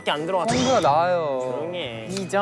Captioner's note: squabbling